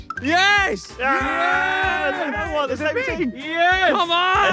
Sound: cheering

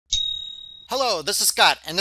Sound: sound of silver ching

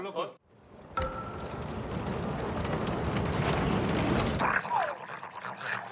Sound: roller Coaster going up

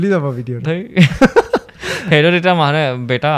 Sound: laughs

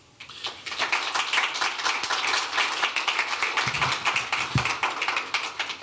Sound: applause

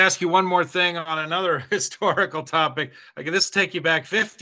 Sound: chuckles

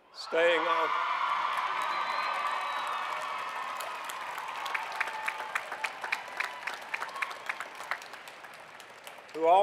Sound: cheering

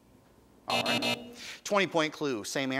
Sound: time buzzer

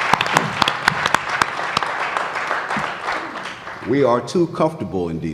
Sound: applause

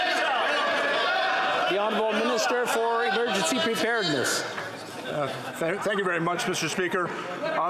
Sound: yelling

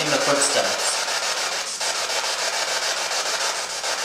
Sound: static

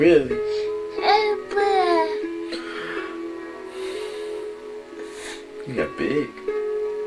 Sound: yawns

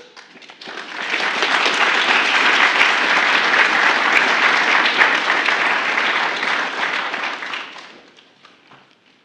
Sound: applause

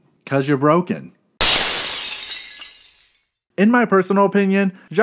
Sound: glass breaks

